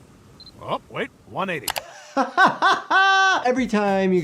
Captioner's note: laughing